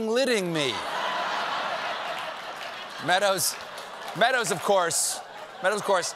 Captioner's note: laughter